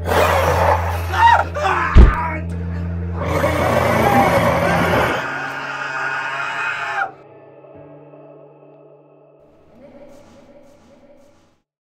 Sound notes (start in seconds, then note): 0.0 growls; 0.0 screams; 1.9 thuds; 5.0 screams